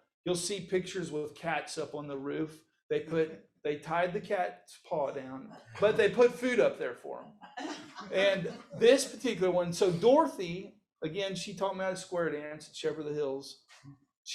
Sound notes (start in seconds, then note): 7.9 audience laughs